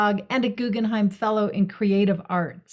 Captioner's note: none